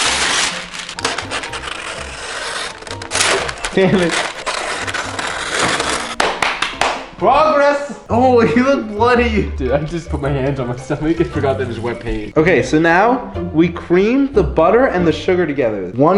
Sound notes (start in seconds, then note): 0.0 paper ripping; 6.2 claps